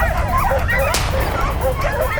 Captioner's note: gunshot